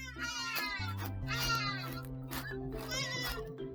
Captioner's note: bird sounds